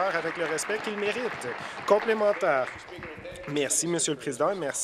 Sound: applause

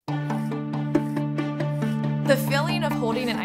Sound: ice scraping

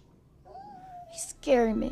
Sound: dog whimpers

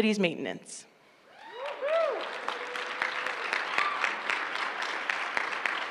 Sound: applause

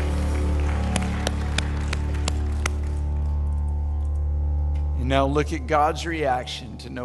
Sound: audience Applause

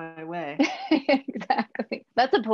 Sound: laughs

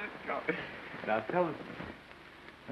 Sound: mumbles

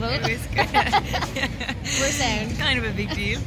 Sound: laughing

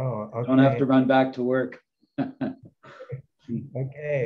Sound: laughs

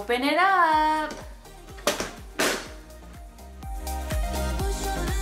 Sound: container thudding

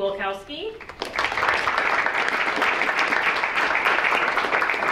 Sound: audience clapping

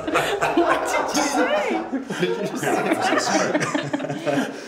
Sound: laughing

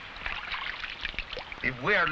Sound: water splashing

